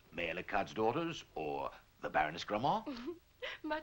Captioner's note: Bernadette giggling